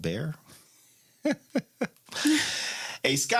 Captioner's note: laughs